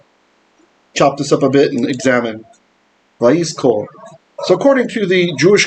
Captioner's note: Hebrew